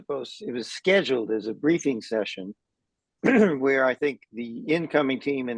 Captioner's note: cough